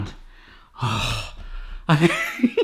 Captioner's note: sighs; laughs